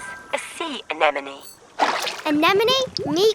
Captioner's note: water splashing